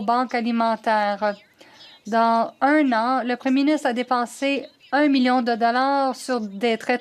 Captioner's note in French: voix de l'interprète